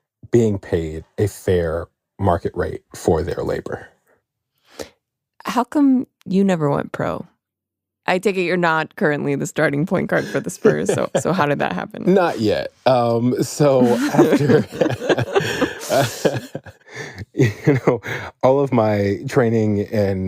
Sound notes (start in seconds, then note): 10.2 laughs; 13.6 both laugh